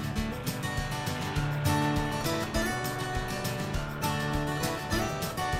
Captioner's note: tires splashing